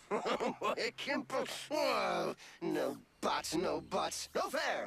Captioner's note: chuckles